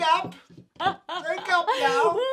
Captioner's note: laughter